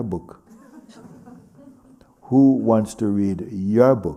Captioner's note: laughter